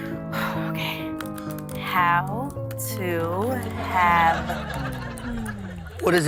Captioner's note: sighs; keyboard clacking